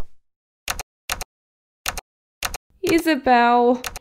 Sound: typing

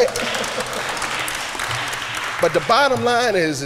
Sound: applause

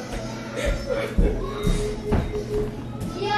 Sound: laughing

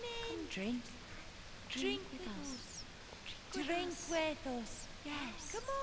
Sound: none

